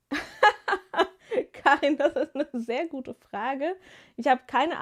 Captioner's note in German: gelächter